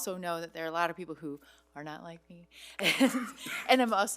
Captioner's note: laughs